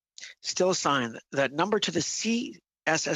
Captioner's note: speaking french